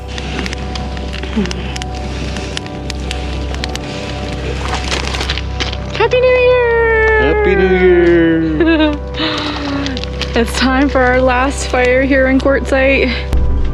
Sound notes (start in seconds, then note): 0.1 fire crackling; 8.7 laughing